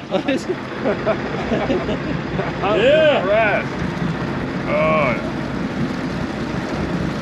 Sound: laughing

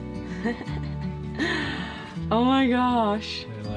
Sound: laughs

